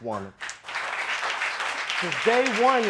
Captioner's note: audience applauding